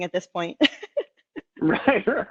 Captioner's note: laughing